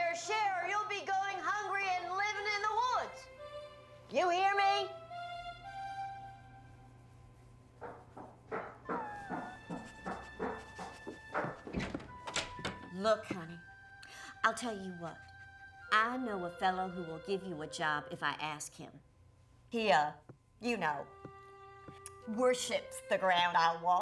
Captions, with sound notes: OR YOU'LL BE GOING HUNGRY AND LIVING IN THE WOODS! YOU HEAR ME? [ FOOTSTEPS ON STAIRS ] [ WHIMPERING, SNIFFING ] LOOK, HONEY, I'LL TELL YOU WHAT -- I KNOW A FELLOW WHO WILL GIVE YOU A JOB IF I ASK HIM. HE, UH, YOU KNOW, WORSHIPS THE GROUND I WALK ON.